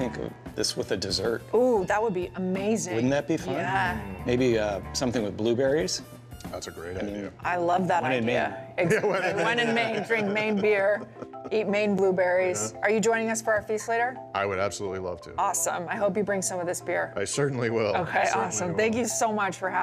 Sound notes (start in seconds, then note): 8.8 laughter